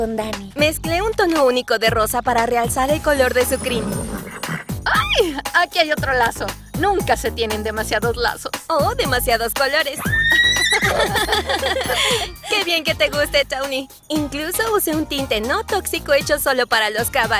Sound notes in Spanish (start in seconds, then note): 10.0 relincha; 10.0 ríen